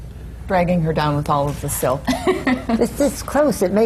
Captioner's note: laughs